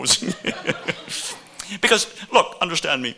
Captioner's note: laughing